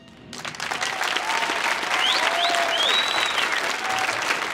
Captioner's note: audience applauding